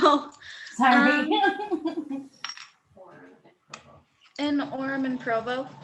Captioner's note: laughs